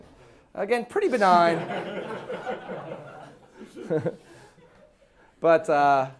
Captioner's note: class laughing